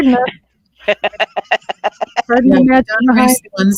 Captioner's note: laughing